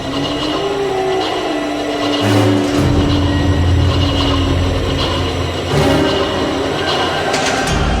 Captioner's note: Demons snarl and Saul screams; demons howl; intense soundscape fades